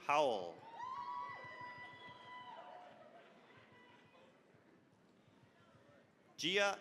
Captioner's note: cheering, applause